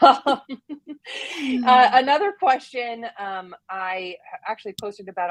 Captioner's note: laughs